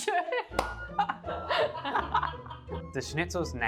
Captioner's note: both laughing